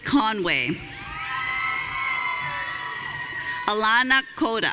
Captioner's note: audience cheering